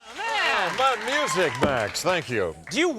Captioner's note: crowd applause